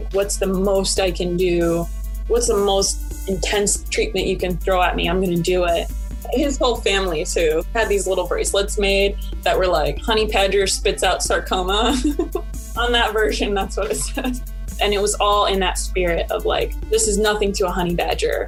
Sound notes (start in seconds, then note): 11.7 laughs